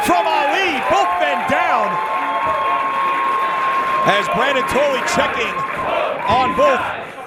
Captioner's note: applause